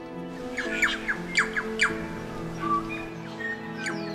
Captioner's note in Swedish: fågelkvitter